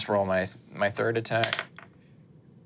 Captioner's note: dice rolling